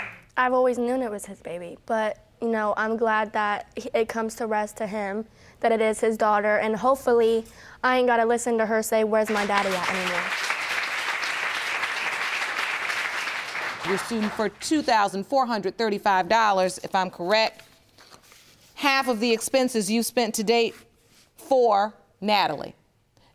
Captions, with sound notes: I've always known it was his baby, but I'm glad that it comes to rest to him that it is his daughter and hopefully I ain't gotta listen to her say, "Where's my daddy at?" anymore. (AUDIENCE APPLAUDING) You're suing for $2,435 if I'm correct. Half of the expenses you've spent to date for Nadaly.